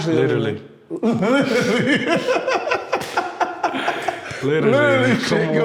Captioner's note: laughs loudly